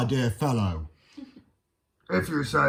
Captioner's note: Siobhán Teddy laughs